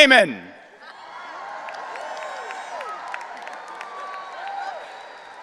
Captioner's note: audience cheering